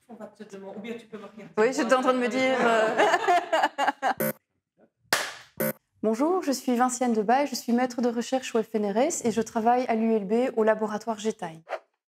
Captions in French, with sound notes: Oui, j’étais en train de me dire…. (rire) Bonjour, je suis Vinciane Debaille; je suis maitre de recherche au FNRS et je travaille à l’ULB, au laboratoire G-Time.